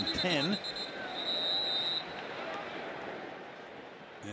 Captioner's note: whistle